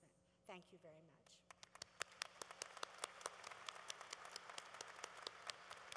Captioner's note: applause